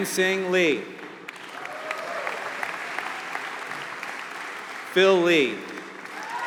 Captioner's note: applause